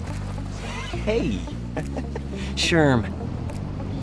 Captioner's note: ominous guitar music; giggles